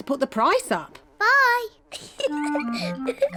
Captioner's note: giggles